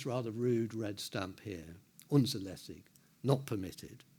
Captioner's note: speaking in foreign language